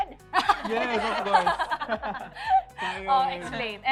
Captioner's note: laughter